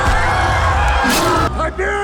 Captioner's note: roars